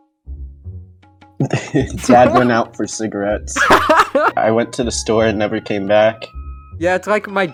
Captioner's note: laughs